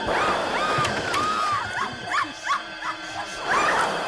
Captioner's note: screaming; dramatic music